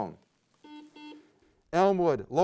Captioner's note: beep